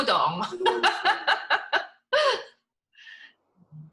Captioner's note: laughs